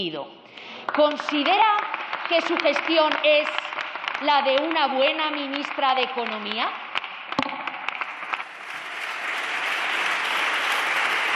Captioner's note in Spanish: Aplausos; Aplausos